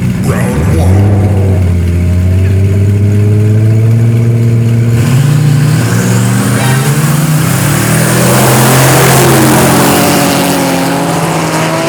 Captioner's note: engines revving